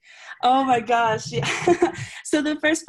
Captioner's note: laughs